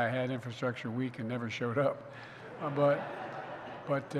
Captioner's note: laughter